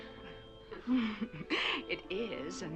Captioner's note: chuckling